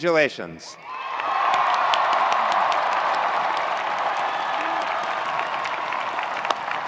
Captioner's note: attendees cheering; attendees applauding